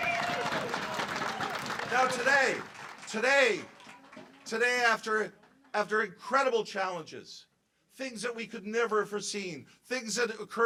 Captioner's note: cheers and applause